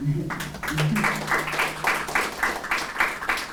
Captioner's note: applause